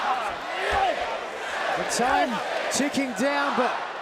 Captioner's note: crowd cheering